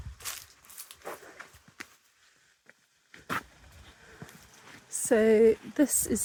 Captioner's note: walking on dried leaves